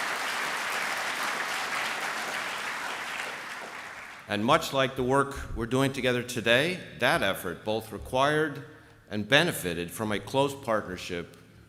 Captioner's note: applse